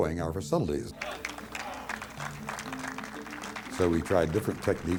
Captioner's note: people applauding